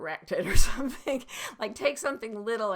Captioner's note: laughing